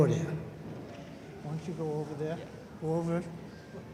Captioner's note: softly discussing where to stand